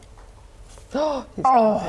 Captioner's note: gasp